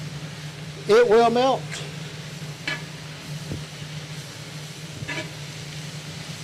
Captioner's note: skillet sizzling continues